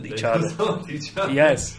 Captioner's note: laughs